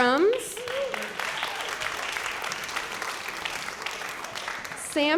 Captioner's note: applause